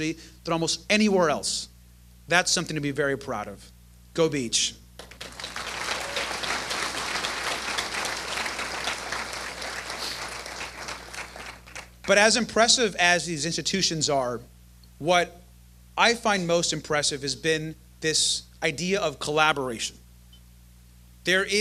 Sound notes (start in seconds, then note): 4.9 applause